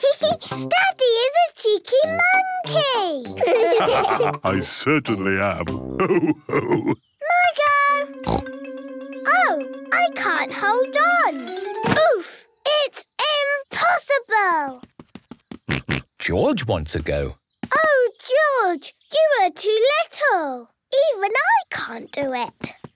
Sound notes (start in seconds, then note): 0.1 laughs; 3.3 all laugh; 8.2 snorts; 15.3 snorts